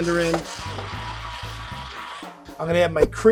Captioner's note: stick blender whirring